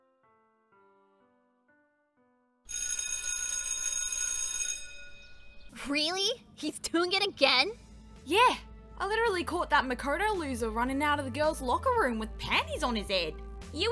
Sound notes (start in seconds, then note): 2.7 school bell rings